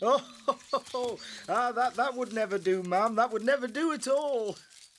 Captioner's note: laughing